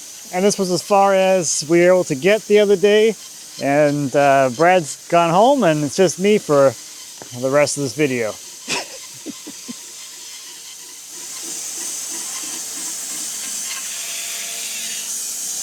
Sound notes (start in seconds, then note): 8.6 laughs; 10.4 saw buzzing